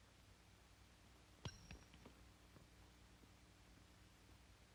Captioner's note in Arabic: صوت العملة المعدنية وهي تصطدم بالأرض